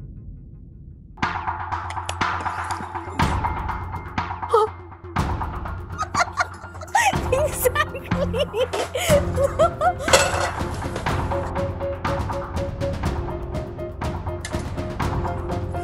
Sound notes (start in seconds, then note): 1.1 intense music continues; 5.9 laughing; 10.8 intense music playing